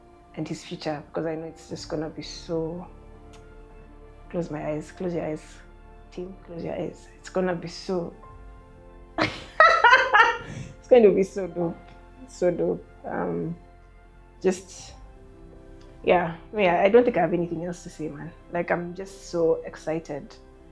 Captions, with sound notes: and his future, because I know it's just gonna be so close my eyes, close your eyes team, close your eyes it's gonna be so... (Laughing) it's going to be so dope, so dope. Um, just yeah. Me, I don't think I have anything else to say man. Like I'm just so excited